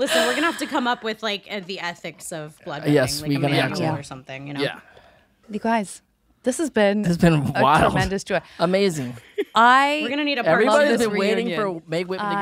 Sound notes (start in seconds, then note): 9.0 laughs